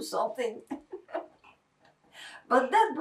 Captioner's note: laughing